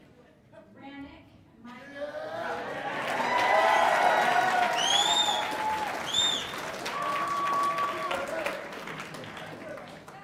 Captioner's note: laughter; cheers and applause